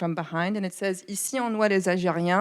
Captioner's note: speaks in foreign language